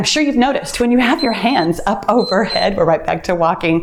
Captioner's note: timer beeps